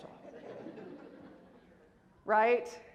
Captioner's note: laughter